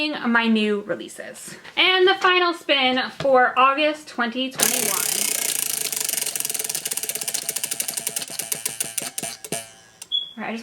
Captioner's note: wheel spinning